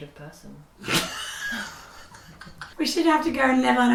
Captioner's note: laughs